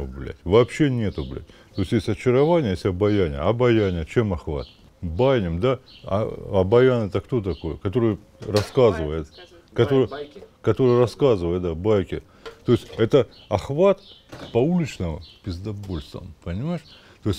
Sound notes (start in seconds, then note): 6.6 chattering